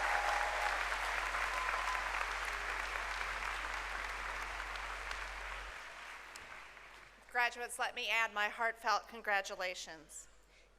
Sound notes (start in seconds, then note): 4.6 cheering and applause